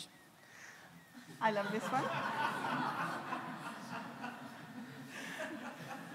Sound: audience laughs

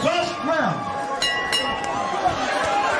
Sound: bell ringing; crowd cheering

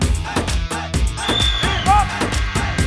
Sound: whistle

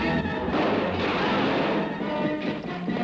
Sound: shouting

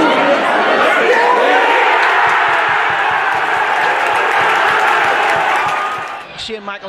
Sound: crowd celebrates

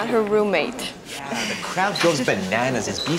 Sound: laughs

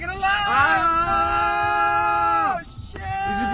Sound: more screaming

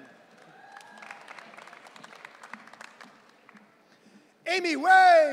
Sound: audience cheering

